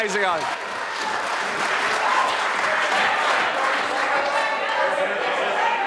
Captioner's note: members applaud